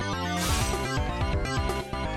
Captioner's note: metallic slice